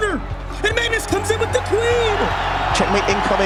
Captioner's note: crowd cheering, applauding